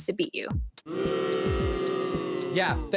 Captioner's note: children booing